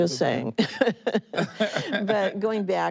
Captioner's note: both laughing